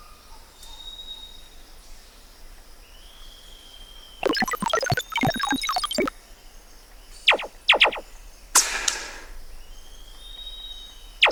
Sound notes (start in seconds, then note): 4.2 female prototype blipping; 7.3 gun blasts; 8.6 shot clanks